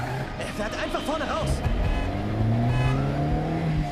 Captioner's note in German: hupen